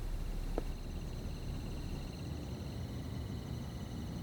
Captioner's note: insects thrumming